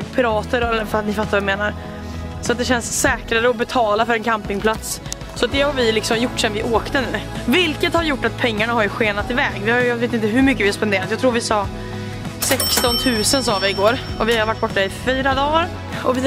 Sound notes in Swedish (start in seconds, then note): none